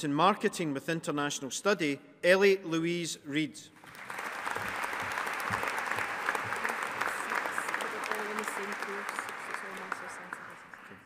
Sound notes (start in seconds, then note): 3.8 audience applauding